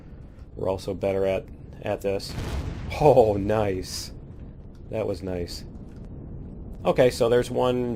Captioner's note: explosion